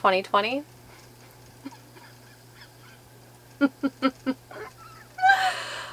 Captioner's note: laughs quietly